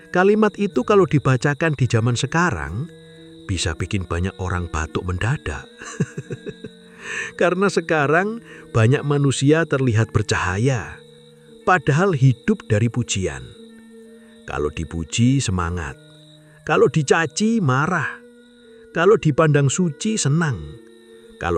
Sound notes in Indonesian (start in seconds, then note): 5.8 tertawa